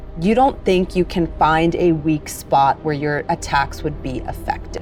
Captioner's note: none